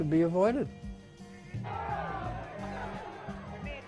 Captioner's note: crowd shouting